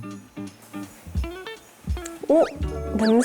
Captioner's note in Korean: 킁킁